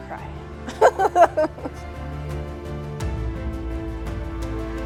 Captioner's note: laughing